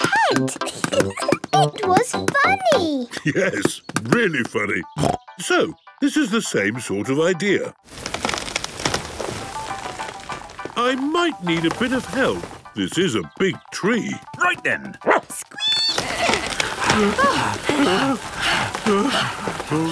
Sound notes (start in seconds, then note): 0.6 giggling; 4.4 snorting; 9.1 disc music playing; 15.0 barking, squeaking, bleating; 15.9 all groaning and panting